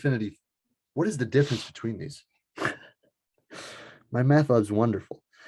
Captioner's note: laughs